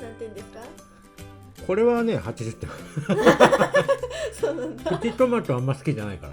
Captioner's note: laughs